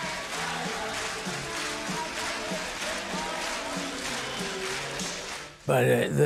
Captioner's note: crowd clapping and singing